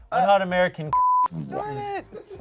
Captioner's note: beep